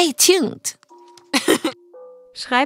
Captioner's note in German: Lachen